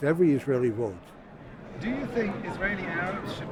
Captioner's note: voiceover